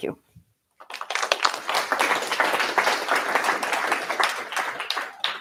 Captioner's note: applause